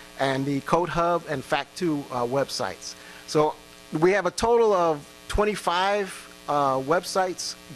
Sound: none

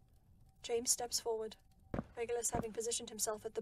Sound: footsteps

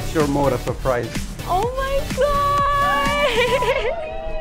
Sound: laughs

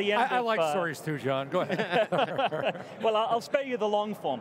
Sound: laughs

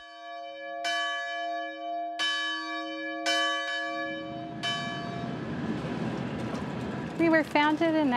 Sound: bell ringing

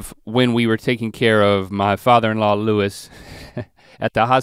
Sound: chuckles

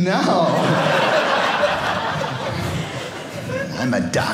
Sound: audience laughing

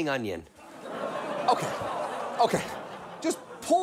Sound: audience chuckles

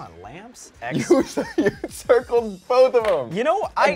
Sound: laughs

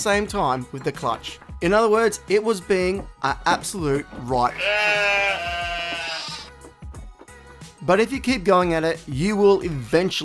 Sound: goat noise

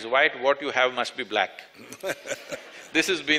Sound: laughter

